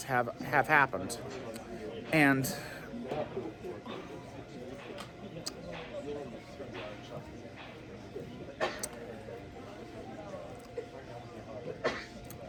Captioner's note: Students chattering at Purdue Fort Wayne's Walb Student Union